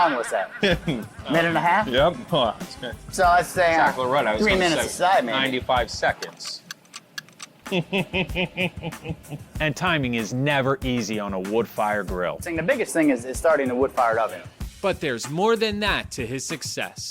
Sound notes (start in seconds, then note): 0.0 laughing; 0.0 laughs; 6.2 ticking noise; 7.6 laughs